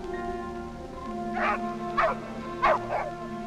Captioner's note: barking